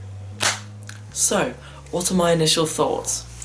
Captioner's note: aggressive Galaxy Bud snap